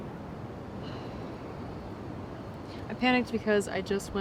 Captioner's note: Fern sighs